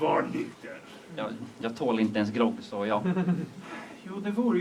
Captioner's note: laughter